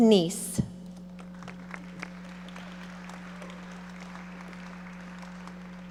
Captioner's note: audience applauding